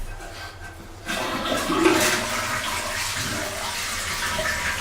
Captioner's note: toilet flushing